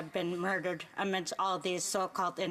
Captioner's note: speaking Indigenous Language